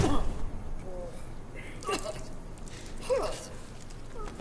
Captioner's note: coughs